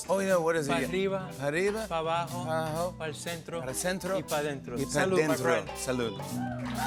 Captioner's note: speaking Spanish; cheers and applause